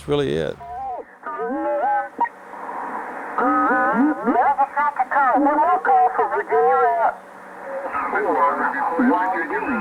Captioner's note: ham radio sounds; on the ham radio